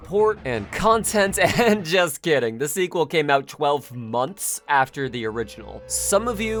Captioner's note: laughs